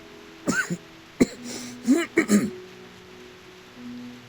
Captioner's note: cough